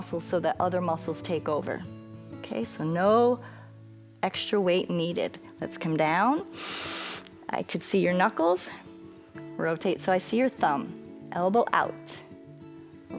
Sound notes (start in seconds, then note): 6.5 inhales